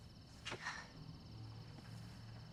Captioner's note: sighs